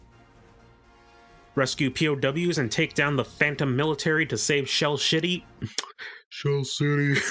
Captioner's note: fumbled Speech